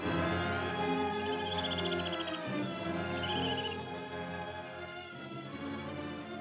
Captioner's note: suspenseful music; somber music; animal squeaks; somber music